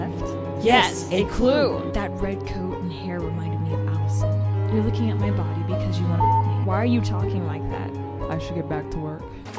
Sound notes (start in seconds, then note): 6.0 beep